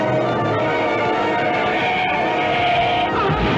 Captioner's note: screaming; crash